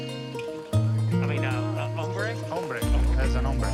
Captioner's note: Spanish language